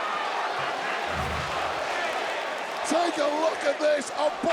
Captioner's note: crowd chants "Holy shit"